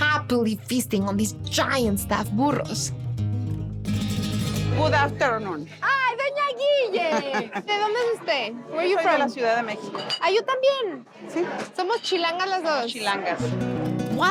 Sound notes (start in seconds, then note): 6.8 laughs